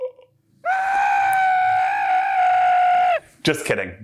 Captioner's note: screaming loudly